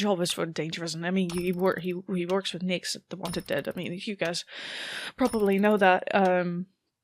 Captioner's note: shaky breath